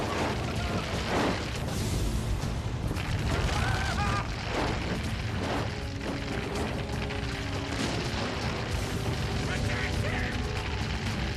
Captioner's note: gunfire